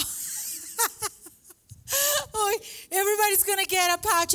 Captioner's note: laughs